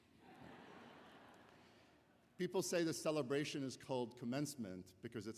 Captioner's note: laughter